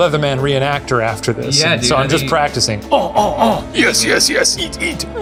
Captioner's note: grunting